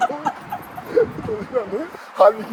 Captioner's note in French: rires